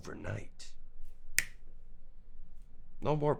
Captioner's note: clicks fingers